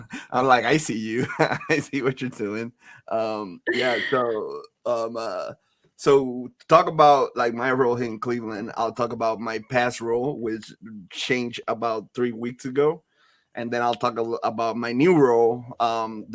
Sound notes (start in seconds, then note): 0.0 laughs